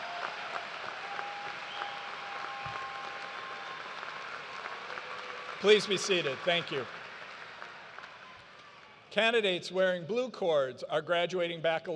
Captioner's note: cheers and applause